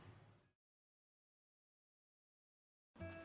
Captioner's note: silence